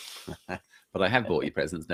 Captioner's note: laughs